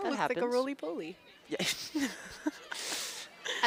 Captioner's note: laughter